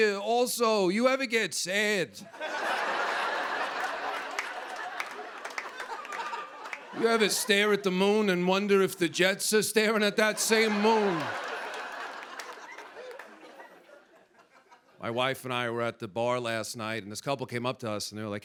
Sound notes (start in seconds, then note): 2.3 laughter and applause; 10.2 laughter